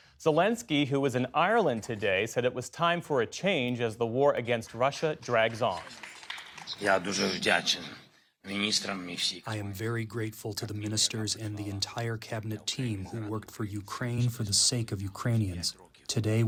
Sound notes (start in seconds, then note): 9.8 through translator